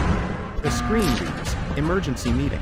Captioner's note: alarm sounds